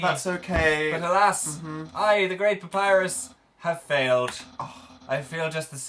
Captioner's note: gasps